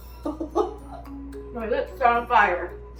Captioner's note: laughs